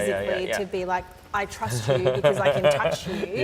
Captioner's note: laughs